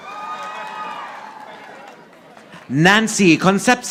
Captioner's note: audience applauding